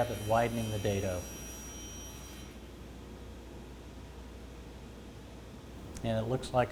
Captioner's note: sound of saw blade cutting material